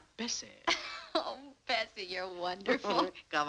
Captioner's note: laughs